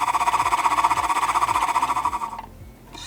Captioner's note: sound of machine fluttering